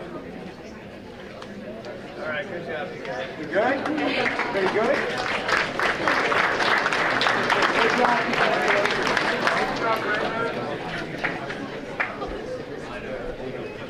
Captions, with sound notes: >>All right, good job, you guys. >>We're good? Everybody good? (audience applauding)